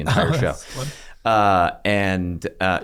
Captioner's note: laughs